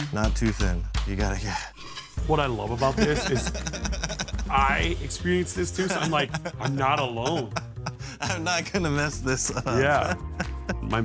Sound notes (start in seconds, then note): 2.7 laughs; 7.4 laughing; 8.2 laughs